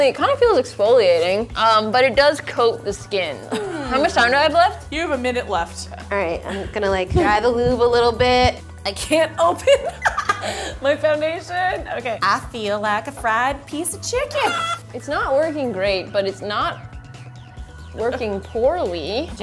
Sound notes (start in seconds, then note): 9.6 laughs